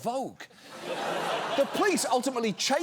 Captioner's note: studio audience laughs